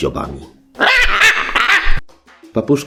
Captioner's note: parrot scream